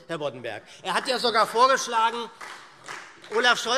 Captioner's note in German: Vereinzelter Beifall SPD